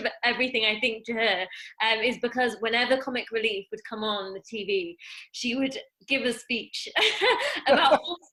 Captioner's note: laughs